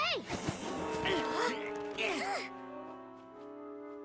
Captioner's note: both grunting